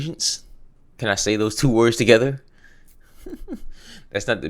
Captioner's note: laughs